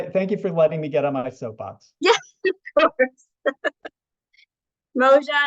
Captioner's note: laughing